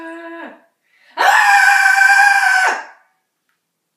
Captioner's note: screaming; more screaming